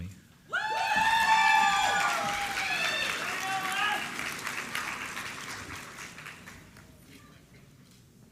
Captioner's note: applause